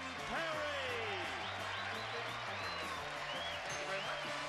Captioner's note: audience cheering